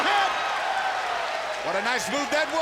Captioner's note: fans cheering